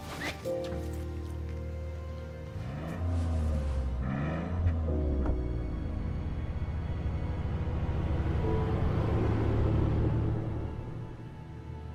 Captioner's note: soft music; car engine revs